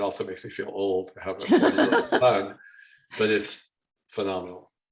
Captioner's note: laughing